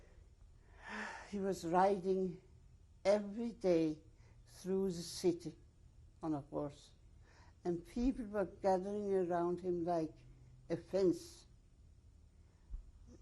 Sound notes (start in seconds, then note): 0.8 sighs